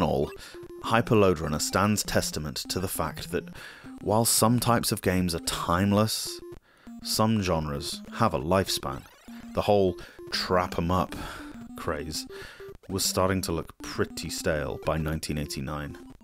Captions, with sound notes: in all, Hyper Lode Runner stands testament to the fact that while some types of game are timeless, some genres have a lifespan. The whole 'trap-em-up' (sigh) craze was starting to look pretty stale by 1989.